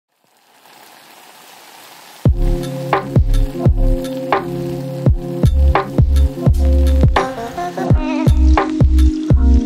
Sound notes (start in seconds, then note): 0.8 rain falling; 2.2 chill music